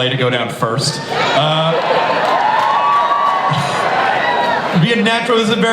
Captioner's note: audience laughing and cheering